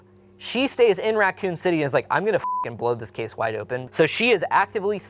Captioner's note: beep